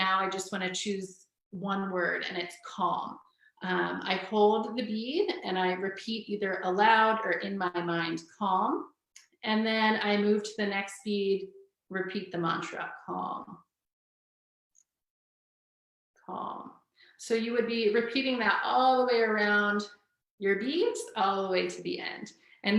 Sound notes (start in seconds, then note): none